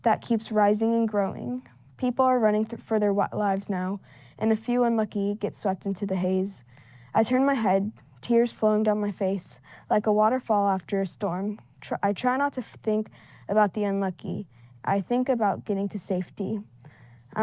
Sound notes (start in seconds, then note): none